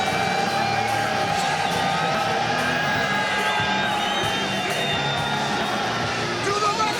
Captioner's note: people cheering; upbeat music